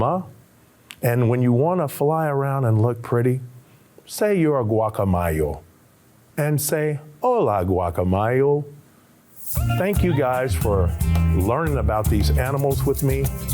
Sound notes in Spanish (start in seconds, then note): 0.0 hablando en español; 4.2 hablando en español; 9.4 música instrumental alegre